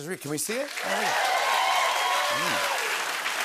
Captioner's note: cheers and applause